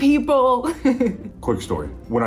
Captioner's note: laugh